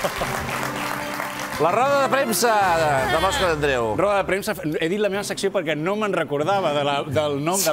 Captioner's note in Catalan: aplaudiments